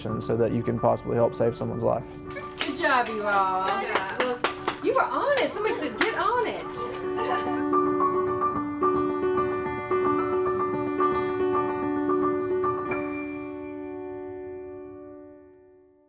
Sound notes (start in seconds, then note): 5.2 hands slapping; 12.9 piano music ends